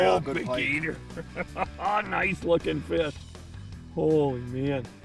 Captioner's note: voiceover